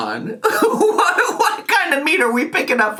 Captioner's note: laughing